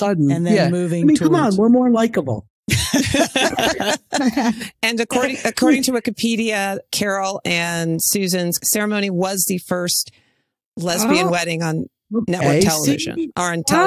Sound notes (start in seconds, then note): 2.7 laughing